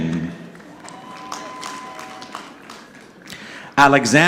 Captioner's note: audience clapping